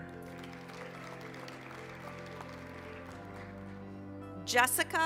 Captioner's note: applause